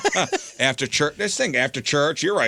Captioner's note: laughing